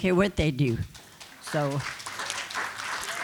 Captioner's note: applause